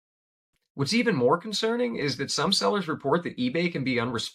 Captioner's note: voiceover